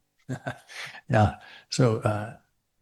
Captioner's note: chuckles